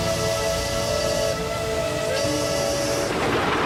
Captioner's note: <i> train whistle blowing</i>